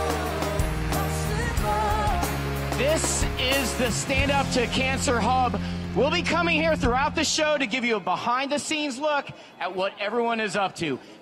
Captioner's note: applause